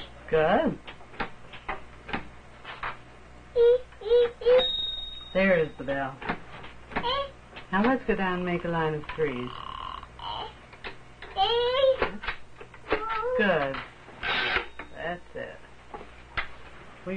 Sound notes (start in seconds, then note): 4.6 ding